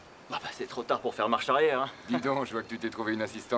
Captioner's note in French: rire